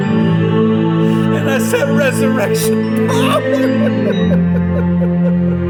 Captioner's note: weeping / en llantos